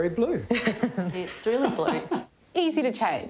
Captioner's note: chuckles; laughter